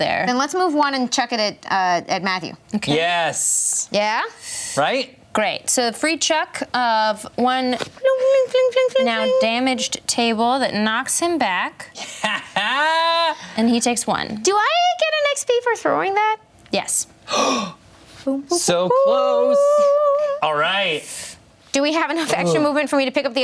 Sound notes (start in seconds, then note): 12.0 laughs